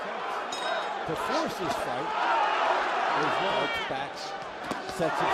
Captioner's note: cheers